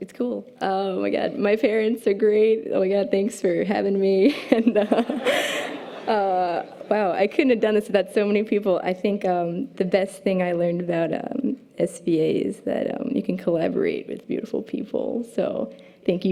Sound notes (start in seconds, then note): 4.6 audience laughter